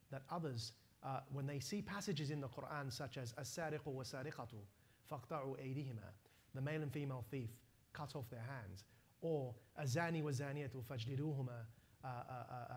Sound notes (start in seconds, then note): 3.6 non-english speech; 9.7 non-english speech